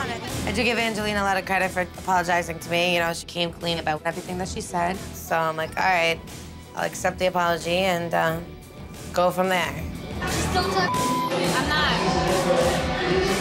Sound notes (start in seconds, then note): 10.8 beep